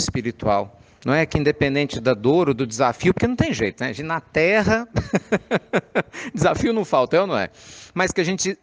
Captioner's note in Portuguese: risadas